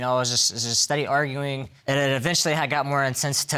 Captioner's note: stammering